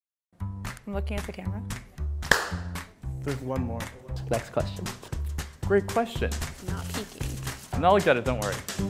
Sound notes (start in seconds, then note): 2.2 clap